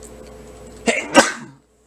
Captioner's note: sneezes